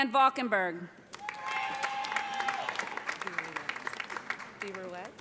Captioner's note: cheers and applause